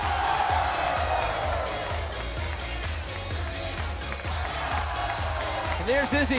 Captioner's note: cheers & applause